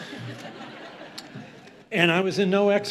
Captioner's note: audience laughs